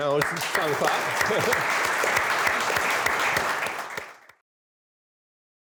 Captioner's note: applause